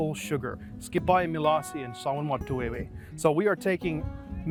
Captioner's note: speaking Eastern Shawnee